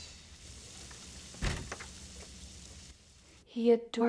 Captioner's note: door thuds